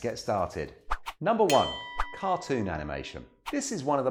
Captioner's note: bell rings